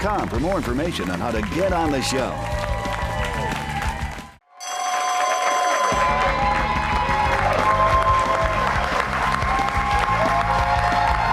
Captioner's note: bell rings; cheers and applause